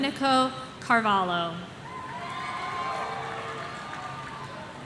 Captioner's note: audience cheering